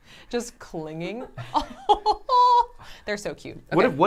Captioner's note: laugh